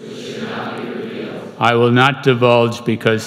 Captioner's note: crowd